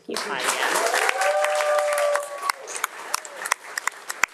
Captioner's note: audience applauding